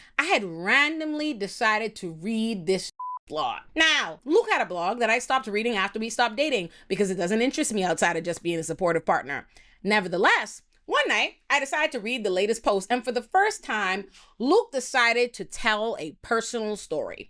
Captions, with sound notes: I had randomly decided to read this (beep) plot. Now, Luke had a blog that I stopped reading after we stopped dating because it doesn't interest me outside of just being a supportive partner. Nevertheless, one night I decided to read the latest post and for the first time, Luke decided to tell a personal story.